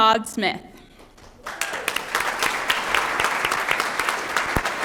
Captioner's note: applause